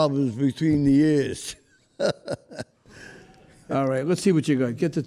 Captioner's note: chuckling